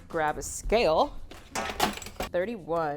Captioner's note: scale clanks